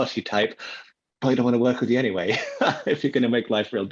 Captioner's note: laughs